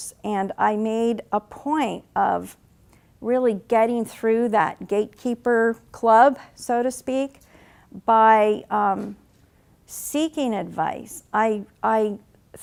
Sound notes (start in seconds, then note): none